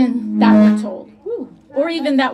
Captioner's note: audio Feedback